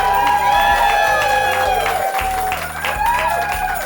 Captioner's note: applause